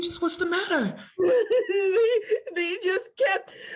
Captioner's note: Peaches cries